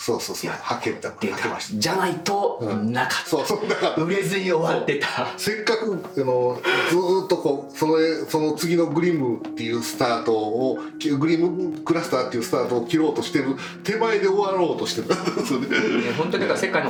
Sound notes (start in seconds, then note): 15.0 laughs